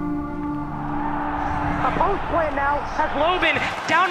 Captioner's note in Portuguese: locutor abafado